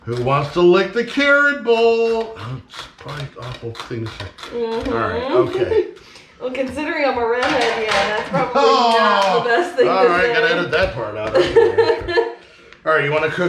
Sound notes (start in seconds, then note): 9.5 exclaiming; 11.3 laughing